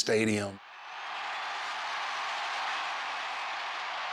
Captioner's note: crowd cheers